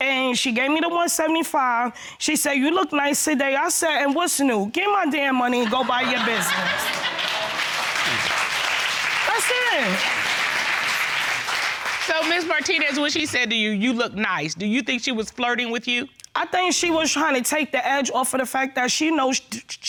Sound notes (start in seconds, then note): 7.2 laughter